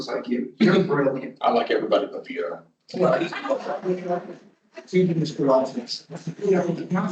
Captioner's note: laughter